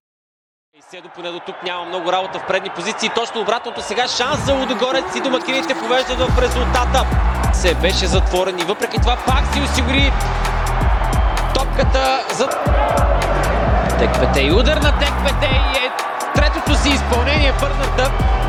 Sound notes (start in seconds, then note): 1.0 sports commentator speaking